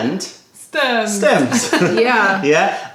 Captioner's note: laughter